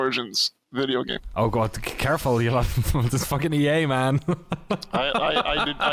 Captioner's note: laughs